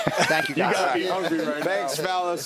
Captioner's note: laughter